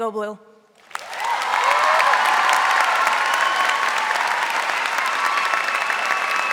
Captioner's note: audience applauding and cheering